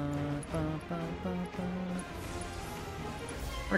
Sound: humming

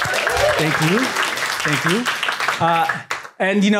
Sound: applause

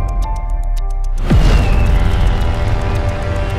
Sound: piano music; birds cawing

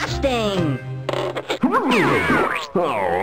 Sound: yelps

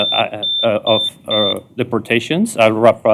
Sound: beeping

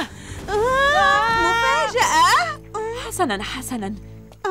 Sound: screaming

